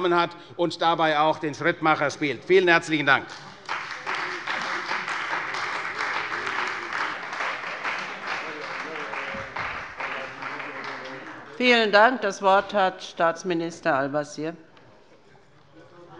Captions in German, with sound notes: hat und dabei auch den Schrittmacher spielt. - Vielen herzlichen Dank. (Beifall bei der CDU und dem BÜNDNIS 90/DIE GRÜNEN) Vielen Dank. - Das Wort hat Staatsminister Al-Wazir.